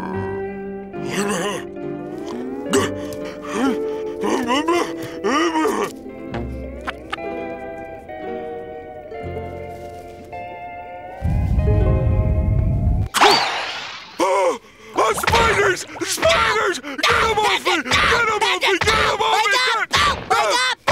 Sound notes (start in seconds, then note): 0.0 snoring; 2.2 grunting